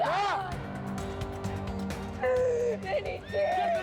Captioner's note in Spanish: Sollozos